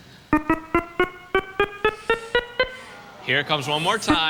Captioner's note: beeping